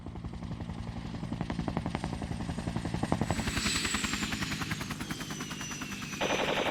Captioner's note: whirling Sounds; gunshots, Explosions